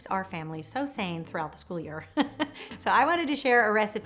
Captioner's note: chuckles